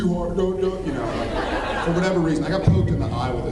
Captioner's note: laughs